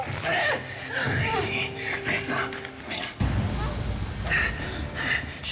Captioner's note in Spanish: sollozos